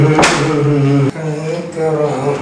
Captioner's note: humming